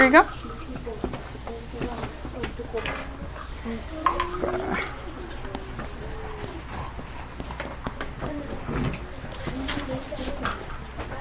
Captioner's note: student speaks softly